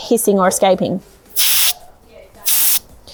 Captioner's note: air Hissing